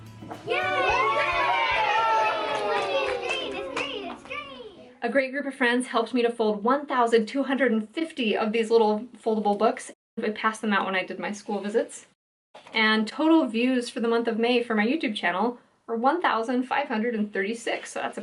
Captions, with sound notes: [Cheering] A great group of friends helped me to fold 1,250 of these little foldable books. We passed them out when I did my school visits. And total views for the month of May for my YouTube channel were 1, 536.